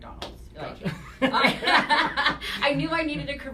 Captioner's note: laughter